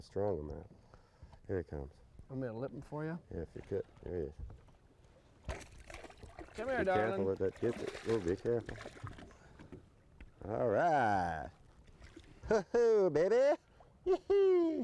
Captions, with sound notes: I don't want to strong arm him. here he comes. Do you want me to lip him for you? yep here he is [Splash] come here darling. be careful with that gitzit whoa be careful alright! Baby! whoa!